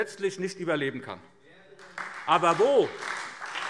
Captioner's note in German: Beifall SPD